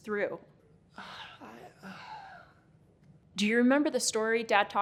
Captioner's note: sighing